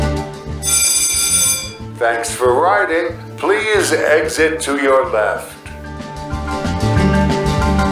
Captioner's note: bell